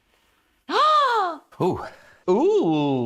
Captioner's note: gasps